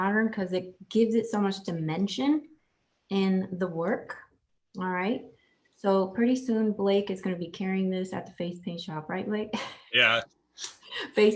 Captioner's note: laughs